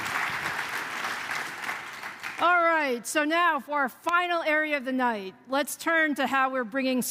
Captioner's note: applause